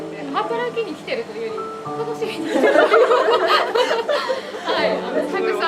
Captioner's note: laugh